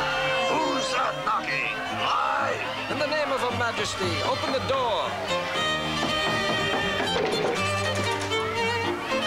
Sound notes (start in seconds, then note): 5.9 knock knock